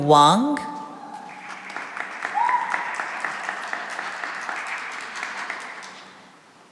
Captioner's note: cheering and applause